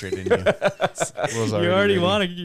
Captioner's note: laughing